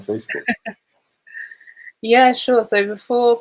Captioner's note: chuckles